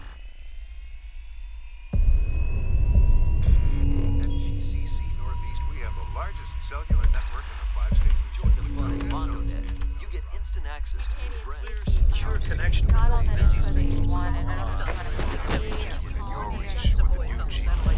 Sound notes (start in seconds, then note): 3.9 man 1 Over Radio; 8.3 man 2 Over Radio; 14.4 electricity crackling